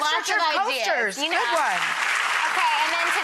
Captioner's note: applause